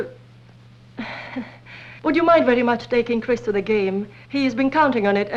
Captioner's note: chuckles